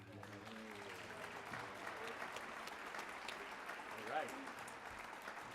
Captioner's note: audience applauds